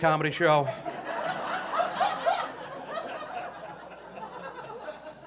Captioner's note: audience laughing